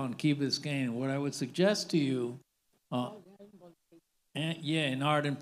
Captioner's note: faintly speaking